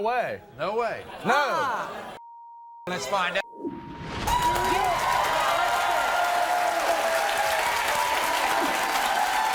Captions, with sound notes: - No way. - No way. - Nah. - Well let's find out. (audience cheers)